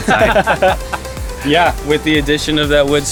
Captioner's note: laughing